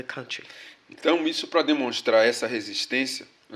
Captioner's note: speaking portuguese